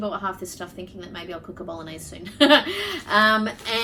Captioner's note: chuckles